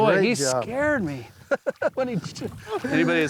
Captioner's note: both laugh